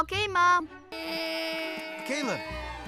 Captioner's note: airplane Noises